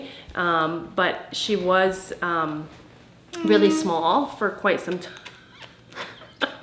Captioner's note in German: lacht